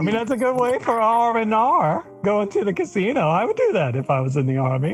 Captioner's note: giggles